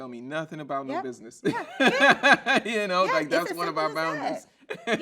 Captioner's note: laughs